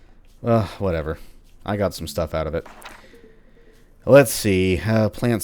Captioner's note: journal opens